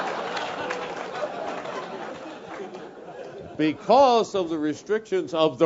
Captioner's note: laugh